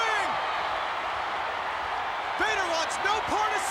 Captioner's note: crowd cheering